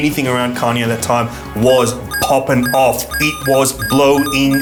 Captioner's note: electronic beeping